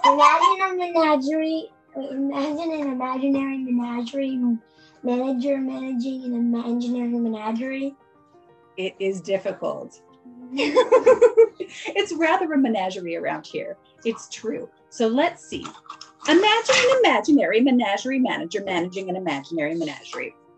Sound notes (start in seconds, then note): 10.5 laughter